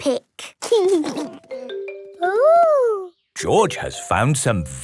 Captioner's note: giggling